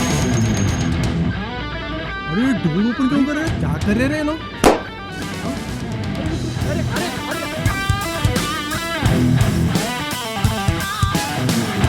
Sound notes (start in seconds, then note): 4.1 tyre Puncture Sound